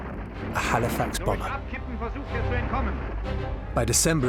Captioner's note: man speaking German